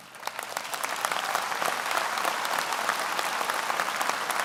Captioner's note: audience applauds